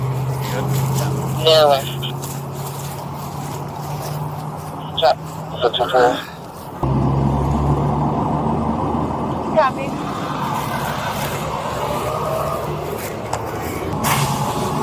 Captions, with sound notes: You good? Yeah (Radio chatter) (Radio chatter) Copy